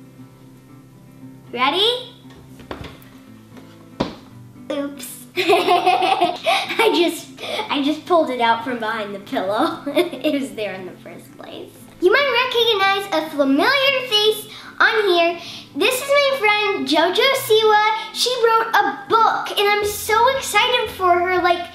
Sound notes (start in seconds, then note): 5.4 laughs